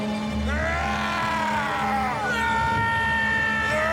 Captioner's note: triumphant yelling